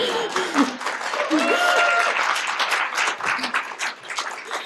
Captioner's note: applause